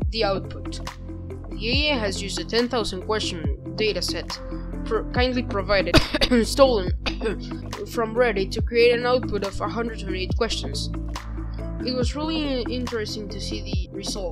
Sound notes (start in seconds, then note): 5.8 cough